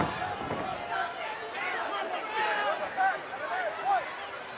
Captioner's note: body thuds; crowd yelling